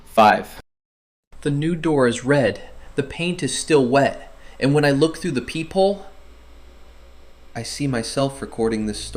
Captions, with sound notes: [terrified] The new door is red. The paint is still wet. And when I look through the peephole... I see myself recording this story.